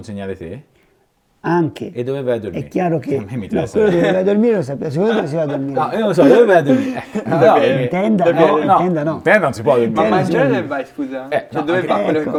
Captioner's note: laughts